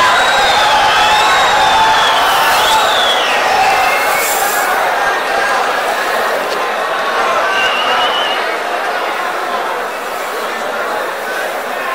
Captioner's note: wild applause and cheering for 22 seconds